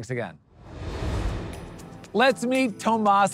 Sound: transition whooshing; upbeat music

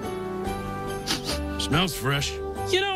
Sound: sniffs

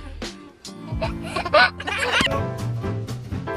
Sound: laughs; festive jazz music

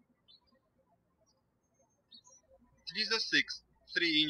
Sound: birds chirping

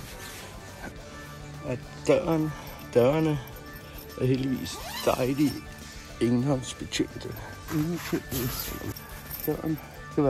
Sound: zippers

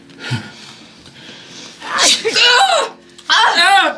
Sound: sneeze!

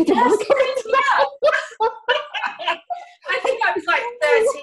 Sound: laughing

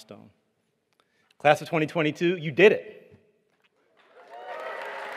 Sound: applause

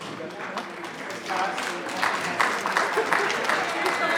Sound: audience applause; woman laughing

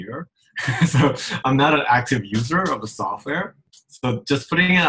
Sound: laughs

